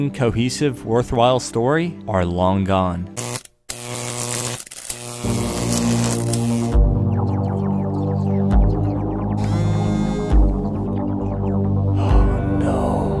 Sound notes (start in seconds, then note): 9.4 phone vibrates